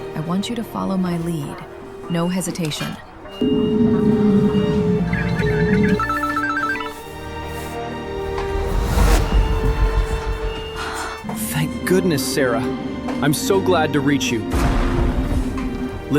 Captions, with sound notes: I want you to follow my lead. No hesitation. [phone buzzing] [sorrowful music] Thank goodness, Sarah. I'm so glad to reach you. [thunder rumbling]